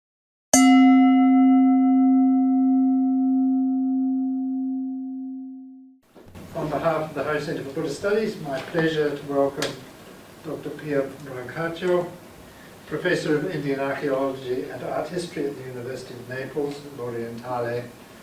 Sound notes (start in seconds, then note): 0.5 bell dinging